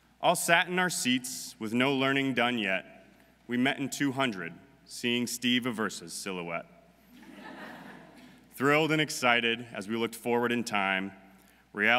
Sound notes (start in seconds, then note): 7.2 audience laughing